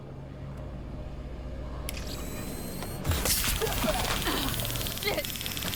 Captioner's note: gun fires